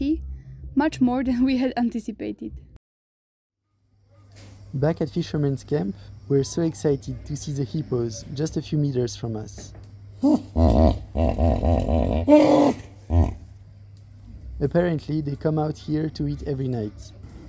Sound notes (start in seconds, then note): 10.2 hippo sounds